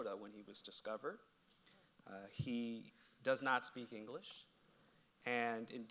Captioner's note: none